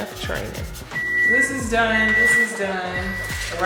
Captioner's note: microwave beeping